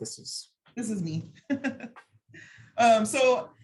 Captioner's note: chuckling